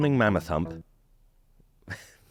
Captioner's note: chuckles cheekily